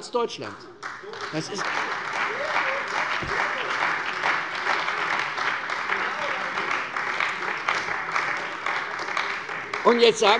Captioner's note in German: Beifall bei der CDU und dem BÜNDNIS 90/DIE GRÜNEN